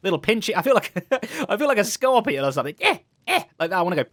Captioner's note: laughs